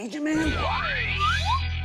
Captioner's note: whispering